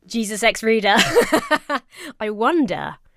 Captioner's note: laughs